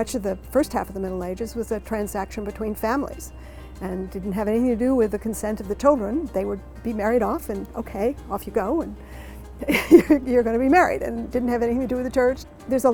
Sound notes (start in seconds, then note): 9.6 laugh